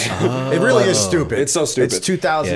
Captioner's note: chuckle